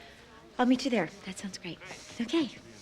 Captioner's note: none